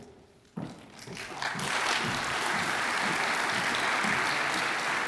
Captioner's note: audience applauds